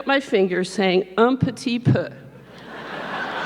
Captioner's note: speaks foreign language; audience laughing